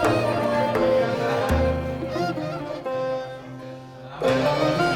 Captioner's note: the festive music of the Ancient Mesopotamia; people's voices